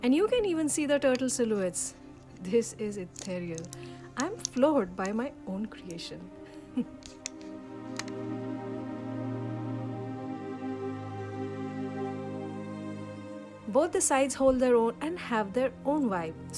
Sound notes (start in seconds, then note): 6.6 giggle